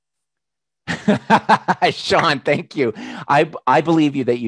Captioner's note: laughs